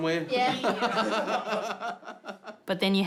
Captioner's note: laughing